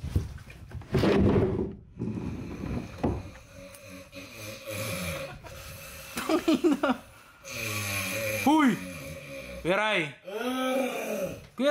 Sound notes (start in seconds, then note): 3.4 snoring